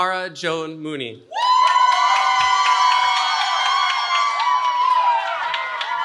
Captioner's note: cheering